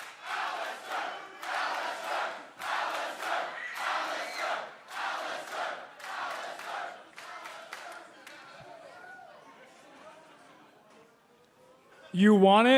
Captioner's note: crowd cheering